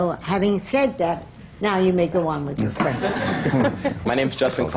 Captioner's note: laughter